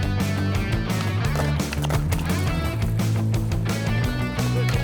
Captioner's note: skateboard noise